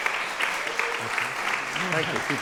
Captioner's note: applause